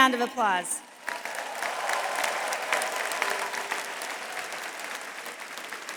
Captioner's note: attendees cheering and applauding